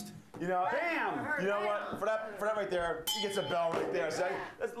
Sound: bell Rings

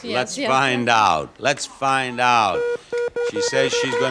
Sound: wheel beeping

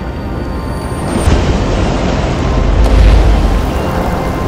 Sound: water crashing

